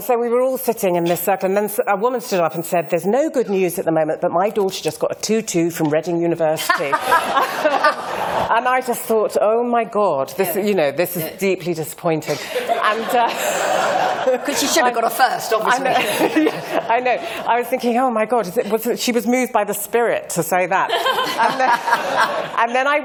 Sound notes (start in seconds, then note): 6.6 laughter; 12.3 more laughter